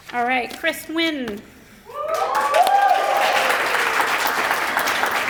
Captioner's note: applause